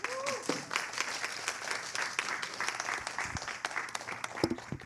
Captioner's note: applause